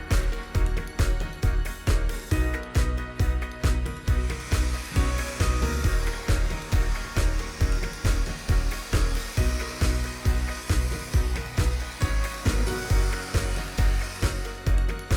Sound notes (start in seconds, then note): 5.8 blower whirring